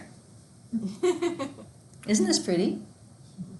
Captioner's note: student laughs